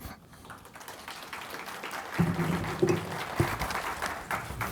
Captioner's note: audience clapping